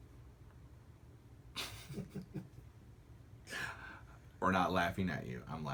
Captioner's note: laughter